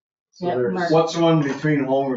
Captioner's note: people chattering